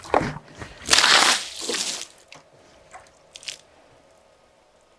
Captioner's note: water splashes